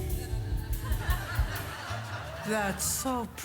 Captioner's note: audience laughs